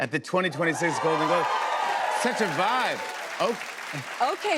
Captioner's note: cheers and applause